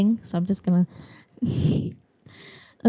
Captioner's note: laughs